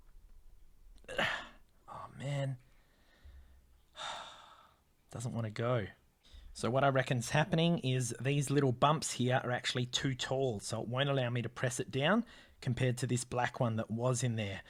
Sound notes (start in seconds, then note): 3.9 sigh